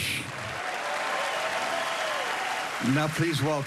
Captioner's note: cheering and applause